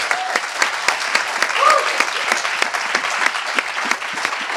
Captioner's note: applause